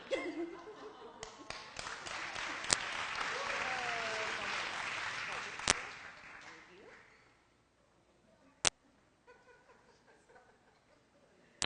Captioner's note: applause and background sounds